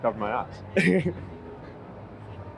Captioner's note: laughs